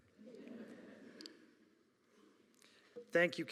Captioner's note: audience laughing